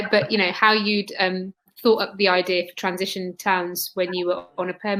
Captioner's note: erm